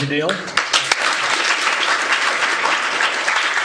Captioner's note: applause